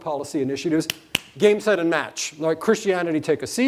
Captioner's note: hands slapping